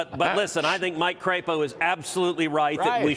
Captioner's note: laughter